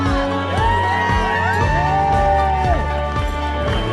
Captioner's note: cheering